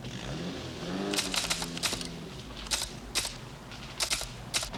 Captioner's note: typewriter keys clacking